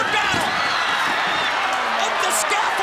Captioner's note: crowd cheering